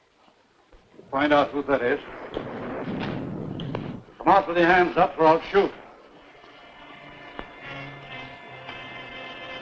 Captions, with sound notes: - Find out who that is. (thunder rumbling) Come out with your hands up or I'll shoot. (pensive music)